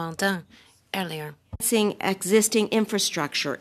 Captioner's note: speaking French